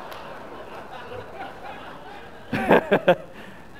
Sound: audience laughs; laughs

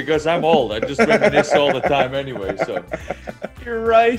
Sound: laugh

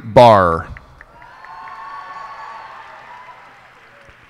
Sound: cheers and applause

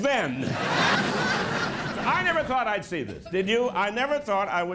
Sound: laughter; laughter

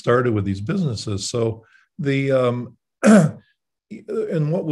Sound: clears throat

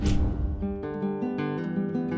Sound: air swishes

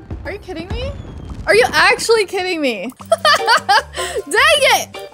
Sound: laughs

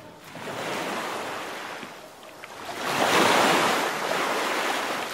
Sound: heavy ocean waves

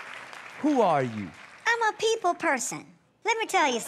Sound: distorted voice

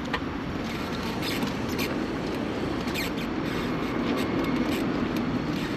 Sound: wheelchair wheels squeaking

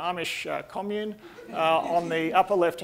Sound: audience laughing

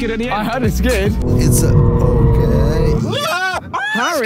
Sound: tyres screeching

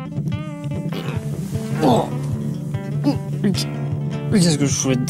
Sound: grunts

